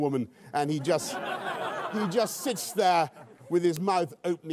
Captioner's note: laughter